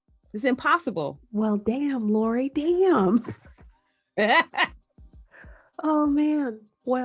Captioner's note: laugh